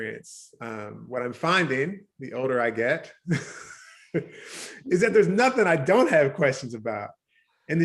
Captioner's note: laughs